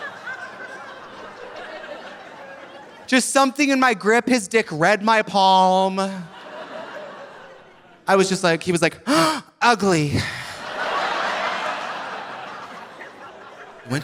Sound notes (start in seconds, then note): 6.0 audience laughing; 9.0 gasps; 10.1 audience laughing